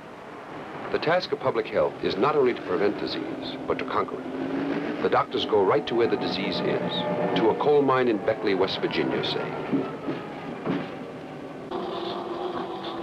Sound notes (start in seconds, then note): 10.0 track rumble; 11.7 stationary bike and breathing apparatus pulsing